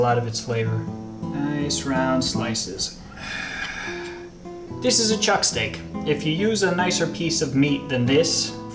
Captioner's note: sigh